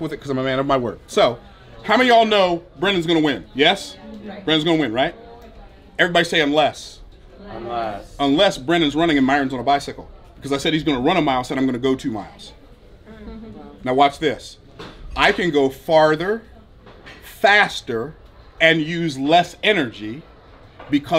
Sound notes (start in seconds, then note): 3.8 crowd murmuring; 7.7 crowd